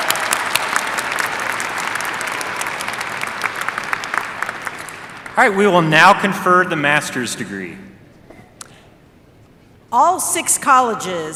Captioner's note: applause